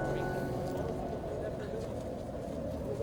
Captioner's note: gente hablando tranquilamente en el fuerte viento